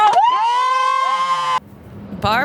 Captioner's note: wooing